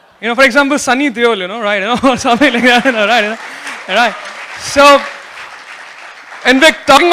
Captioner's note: applause